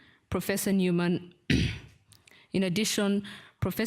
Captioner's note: clears throat